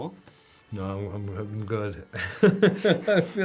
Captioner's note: laughs